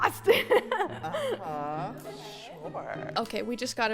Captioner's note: laughs